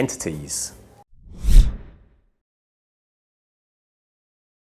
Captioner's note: air whooshes